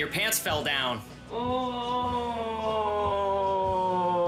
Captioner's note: groaning